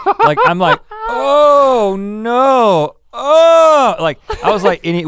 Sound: laughs; groans

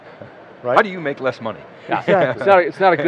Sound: laughs

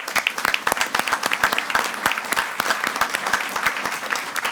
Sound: audience applauding

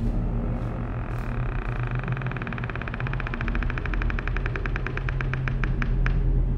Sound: door moans

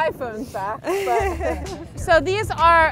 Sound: laughs

